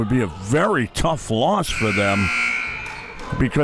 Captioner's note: clock buzzes